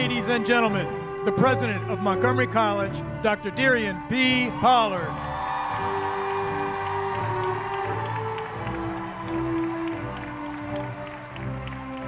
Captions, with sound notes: [ CHEERS AND APPLAUSE ] LADIES AND GENTLEMEN, THE PRESIDENT OF MONTGOMERY COLLEGE, DR. DERIONNE POLLARD. [ CHEERS AND APPLAUSE ]